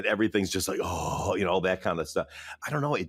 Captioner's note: groans